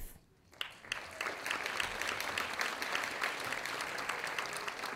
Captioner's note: audience applauding